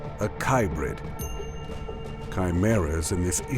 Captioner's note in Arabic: يرن الجرس